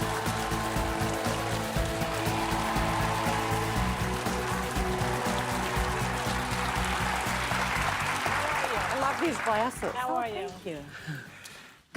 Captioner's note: applause